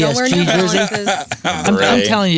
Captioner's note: laughter